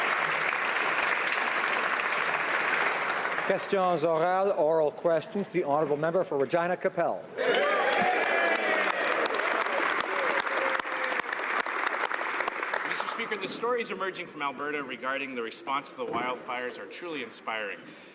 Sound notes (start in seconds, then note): 0.1 some Applause; 11.1 some Applause